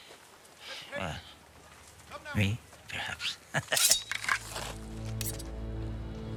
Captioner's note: laughs